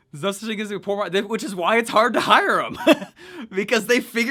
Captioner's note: laughs